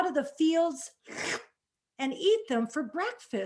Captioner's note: slurps